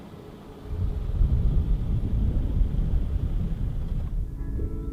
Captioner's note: wind whistling